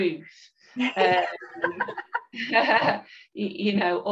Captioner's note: laughs